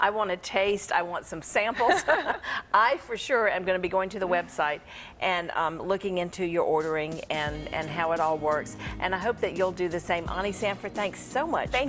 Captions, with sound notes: I wanna taste. I want some samples. (laughter) I for sure am gonna be going to the website. And looking in to your ordering and how it all works. I hope that you'll do the same. Onnie Sanford, thanks so